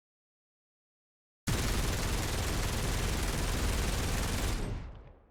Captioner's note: rapid gunfire